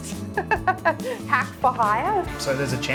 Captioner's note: laughs